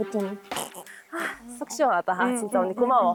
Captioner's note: scoffing sound